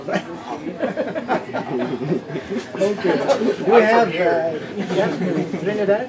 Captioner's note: laughter